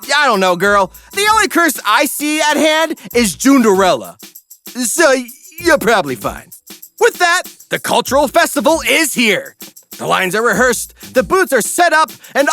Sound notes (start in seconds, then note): none